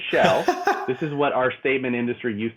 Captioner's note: laughing